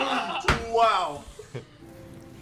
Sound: group laughter

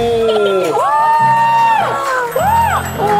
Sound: applause

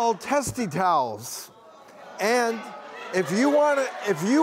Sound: audience groaning

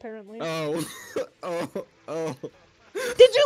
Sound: laughs

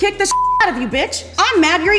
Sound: beep

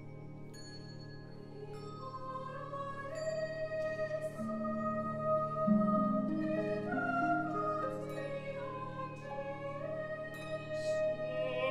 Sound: high voices off stage

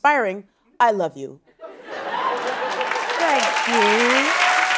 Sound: applause

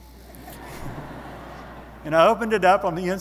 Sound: audience laughing

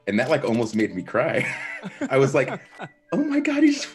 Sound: laugh

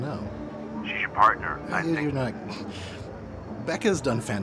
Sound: voiceover

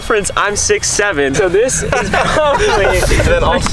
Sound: laughs

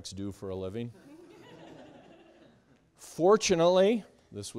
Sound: students laughing

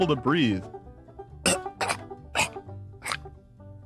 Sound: choking

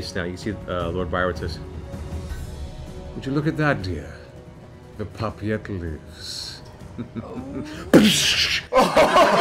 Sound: chuckles, gunshot; laughter

